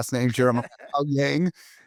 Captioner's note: laughs